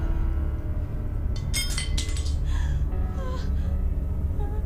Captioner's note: light dramatic music; metal clinking